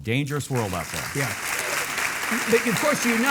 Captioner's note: audience clapping